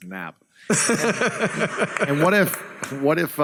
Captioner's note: laughs